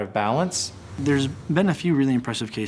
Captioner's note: whooshing